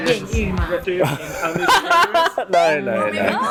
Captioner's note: laughs in embarrasement